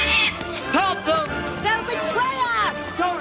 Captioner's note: pig bawling